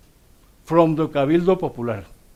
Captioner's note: speaks Spanish